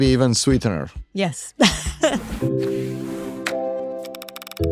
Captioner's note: chuckles; chiming tones